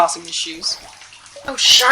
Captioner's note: sounds of rustling fabrics and shoes being tossed